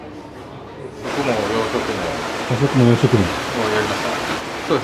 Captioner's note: eating and drinking